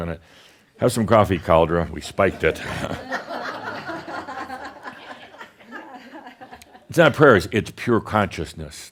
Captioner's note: some laughter